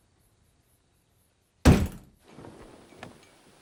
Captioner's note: hits wall